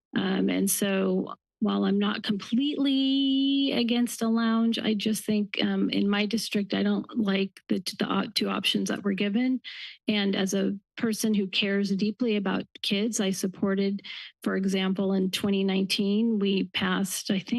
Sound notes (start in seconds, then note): none